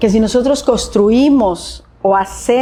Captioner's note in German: spricht Spanisch